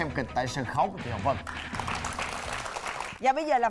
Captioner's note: applause